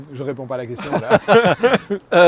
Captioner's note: laughs